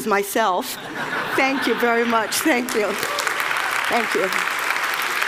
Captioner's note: Laughter; 笑聲; Applause; 掌聲